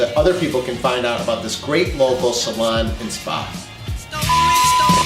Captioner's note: beeps